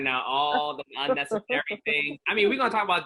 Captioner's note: laughing